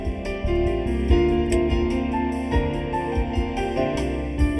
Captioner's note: car door clicks